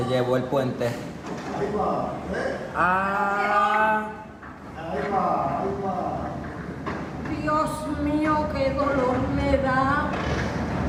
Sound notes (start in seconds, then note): 0.0 person speaks in foreign language; 0.2 cameraman speaks in foreign language; 5.0 bystanders speak in foreign language